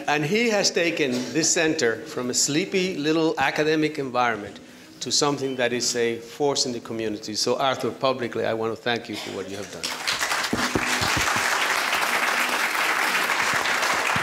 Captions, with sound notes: And he has taken this center from a sleepy little academic environment to something that is a force in the community. So, Arthur, publicly I wanna thank you for what you have done. (applause)